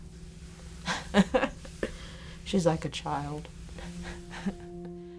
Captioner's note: laughs; airy music